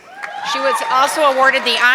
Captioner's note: audience clapping